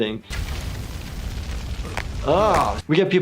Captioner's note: cracking